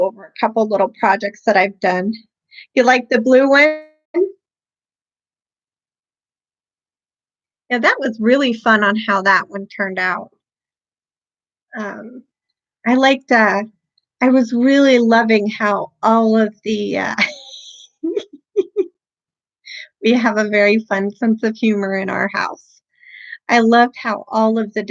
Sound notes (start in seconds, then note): 14.5 giggling